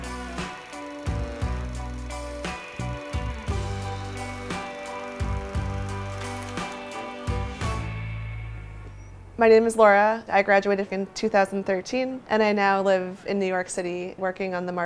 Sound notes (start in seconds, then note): 6.0 film projector whirs down; 7.7 music stops, car horn beeps